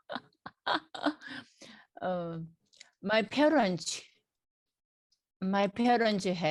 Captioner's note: laughs